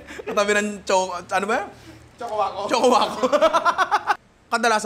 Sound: laughs; laughs

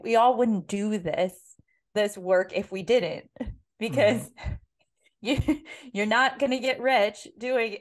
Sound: laugh

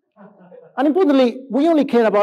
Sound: laughs

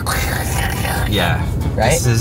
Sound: imitates golf cart

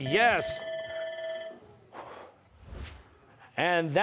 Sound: bell rings; exhales

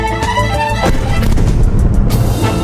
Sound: sonic boom

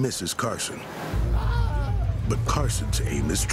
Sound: groaning

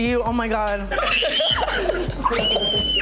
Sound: squealing; laughing

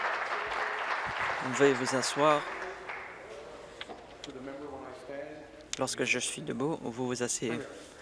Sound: applause

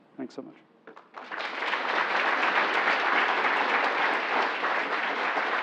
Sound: applause

